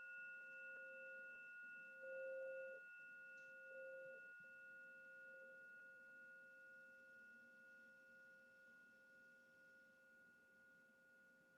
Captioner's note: sound of Gong